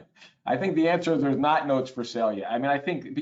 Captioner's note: laughs